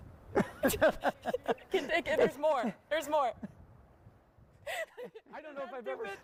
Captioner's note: laughter